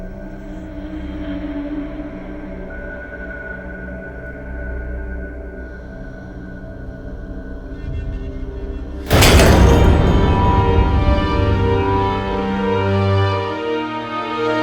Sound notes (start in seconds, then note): 9.0 banging; 11.6 sinister music